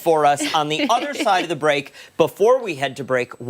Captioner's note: laughter